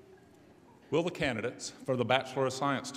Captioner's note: voiceover